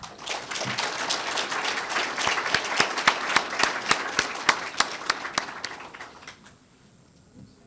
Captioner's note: applause